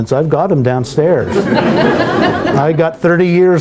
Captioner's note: laughter